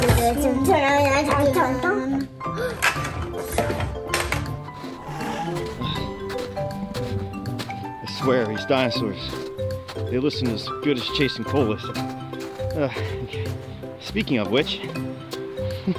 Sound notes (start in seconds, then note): 4.8 animal calls in the distance; 13.0 footsteps crunching in snow